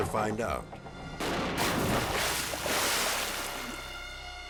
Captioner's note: water splashes; ominous music